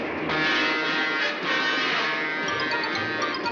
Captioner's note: horn blaring